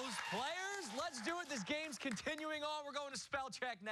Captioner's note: cheers and applause